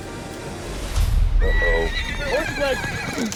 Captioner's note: horse brays